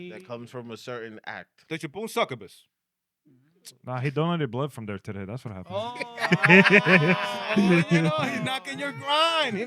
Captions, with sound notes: That comes from a certain act. (Speaking In Foreign Language) Nah, he don't have any blood from there today, that's what happens. (Laughing) Oh, you know, he's knocking your grind,